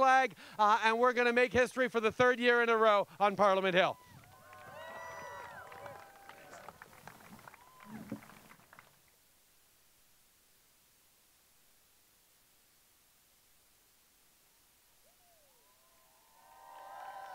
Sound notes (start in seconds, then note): 3.9 cheers and applause